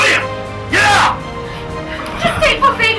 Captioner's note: men pound